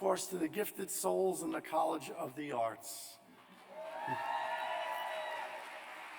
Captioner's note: cheers